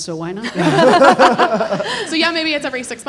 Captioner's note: everyone laughing